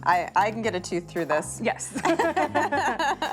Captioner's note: laughter